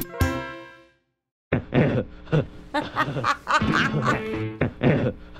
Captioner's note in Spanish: cacareando; risas morónicas